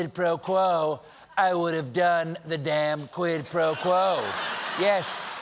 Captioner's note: laughter